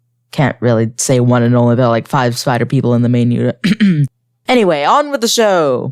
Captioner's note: throat clear